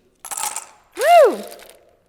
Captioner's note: ice clatters